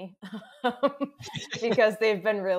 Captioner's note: laughs